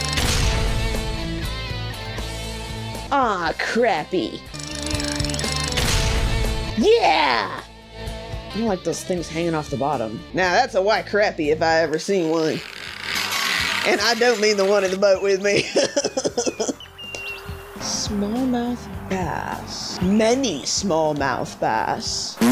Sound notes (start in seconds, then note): 10.2 exaggerated south accent; 15.4 chuckles